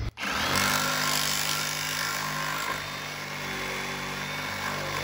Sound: handsaw buzzing

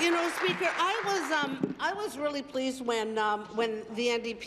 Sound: applause

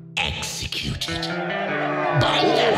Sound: SOUND: Crowd cheers

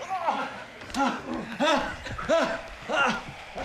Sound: grunts

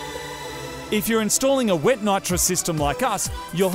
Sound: voice over

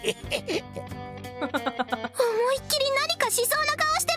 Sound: chuckles

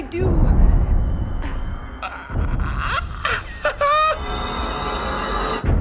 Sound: suspenseful music; croaks and laughs; music escalates

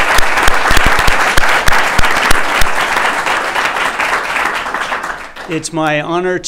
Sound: applause

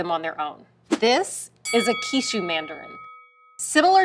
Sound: bell dings

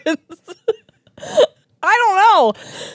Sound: laughs; laugh

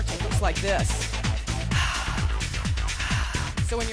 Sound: exhaling

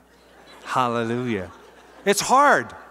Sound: laughter

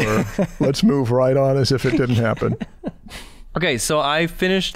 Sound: chuckle

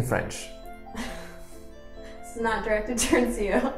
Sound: laughs

